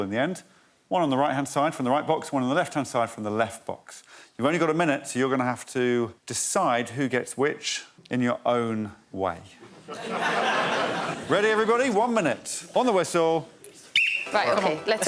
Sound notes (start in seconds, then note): 11.9 audience laughs